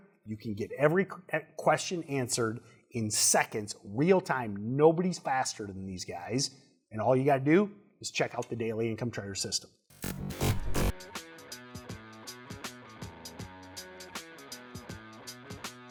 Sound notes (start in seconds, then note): 9.9 electronic buzzing; 11.7 upbeat music